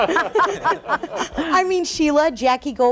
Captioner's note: laughs